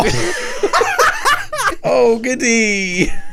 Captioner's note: laughing